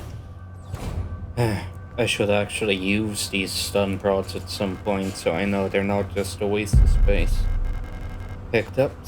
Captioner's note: sigh